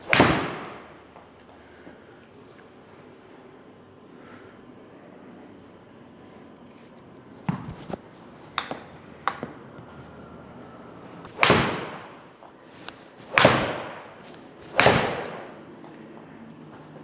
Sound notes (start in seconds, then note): 0.0 club smacks ball; 11.6 club smacks ball repeatedly